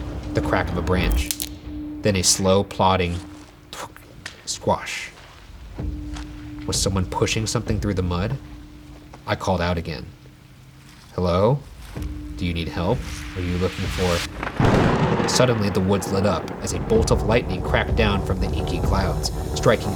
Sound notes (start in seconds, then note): 14.2 thunder cracking